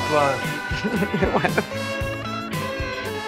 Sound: Gal laughs

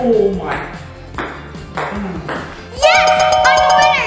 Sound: ball bouncing

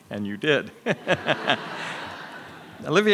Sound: all laughs

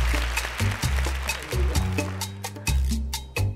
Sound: clapping

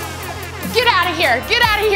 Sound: air horn blares

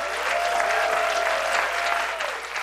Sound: cheers and applause

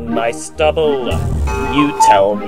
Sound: bang; cuckoo

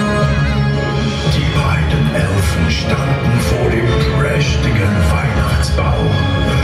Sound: german

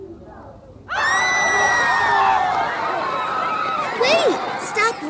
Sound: protestors screaming

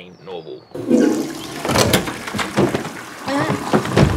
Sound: toilet flushes

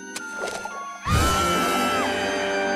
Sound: screaming

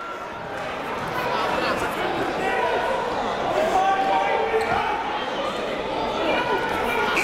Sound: crowd talking; coaches yelling

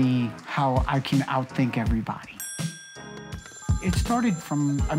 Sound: bell dinging

